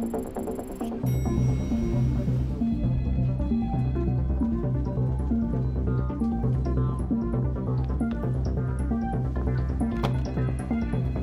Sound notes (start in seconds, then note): 1.0 office din